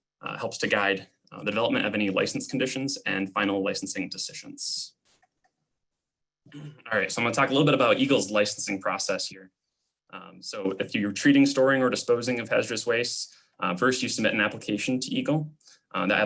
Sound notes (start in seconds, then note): 5.1 clicking; 6.5 clearing throat